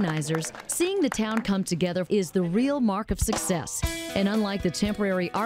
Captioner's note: applause